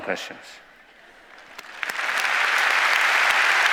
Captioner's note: applause